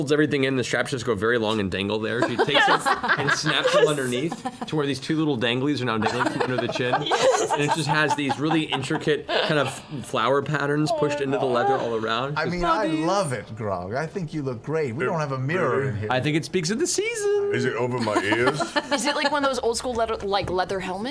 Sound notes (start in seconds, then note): 2.2 laugh; 14.6 stutters